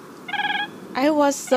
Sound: Siberian Crane calls

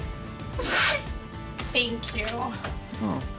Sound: sobs

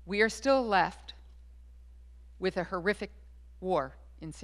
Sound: none

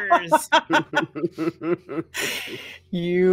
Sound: laughing

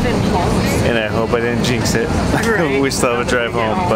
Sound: laughs

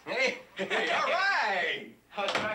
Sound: both chuckle

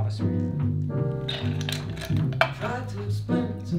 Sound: ice crackles

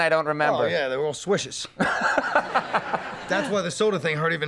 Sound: audience laughing

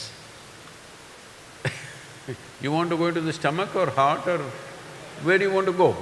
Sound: laughs; few laugh

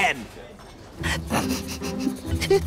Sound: snickering

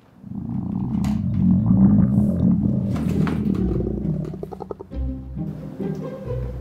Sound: Mei Shui’s stomach goes grrrr

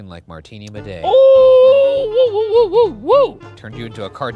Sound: cheering

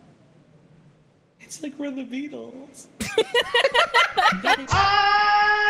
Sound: all laugh

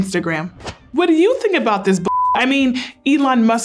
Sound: beep

